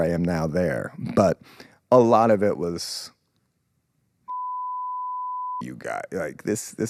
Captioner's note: beep